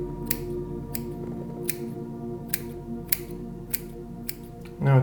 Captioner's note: scissors snipping